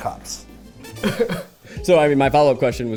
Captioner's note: chuckling